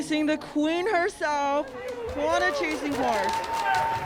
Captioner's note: audience cheers